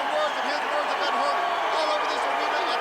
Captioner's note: crowd cheering